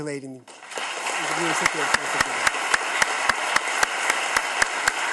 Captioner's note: audience claps